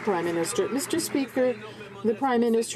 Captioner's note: some Applause